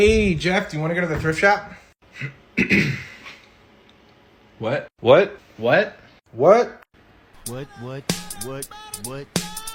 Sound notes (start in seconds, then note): 2.5 clears throat